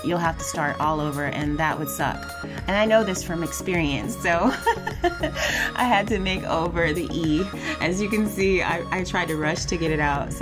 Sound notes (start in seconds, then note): 4.4 laughs